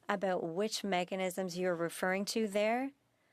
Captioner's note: speaking French